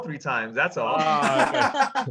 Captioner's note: everyone laughs